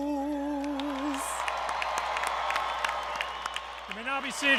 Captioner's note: applause